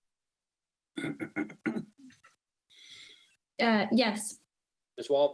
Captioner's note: clears throat